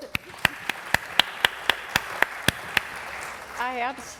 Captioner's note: applause